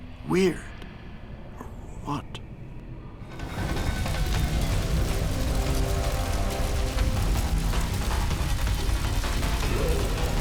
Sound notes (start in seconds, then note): 2.3 dark dramatic music; 3.3 flames crackle and roar